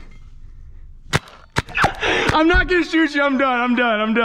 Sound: paintball gun hissing

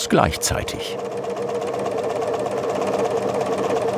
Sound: rattle

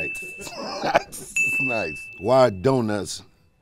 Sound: laughing

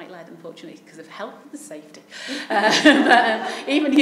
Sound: laughs

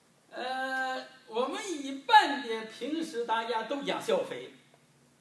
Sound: speaking foreign language

